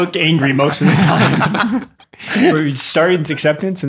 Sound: laughing; laughs

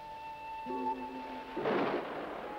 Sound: thunder booming

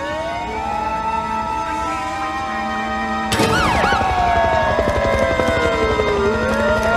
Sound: siren wails

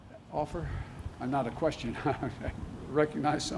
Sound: laughs

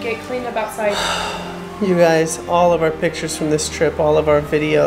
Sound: sighs

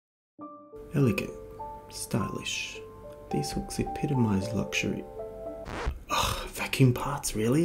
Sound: record scratch

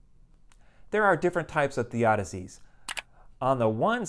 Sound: mouse click

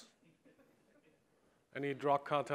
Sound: quiet laughing

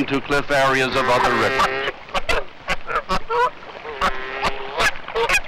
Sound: nature sounds

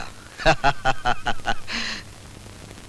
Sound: laughs

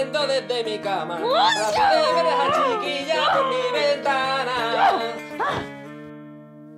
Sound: Ana screams

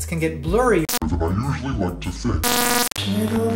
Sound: glitch; glitch

